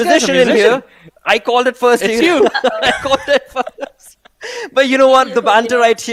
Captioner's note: laughing